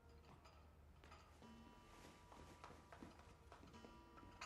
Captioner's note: clock chimes